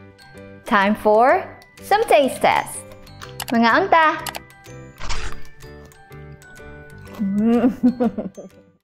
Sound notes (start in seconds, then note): 7.4 chuckles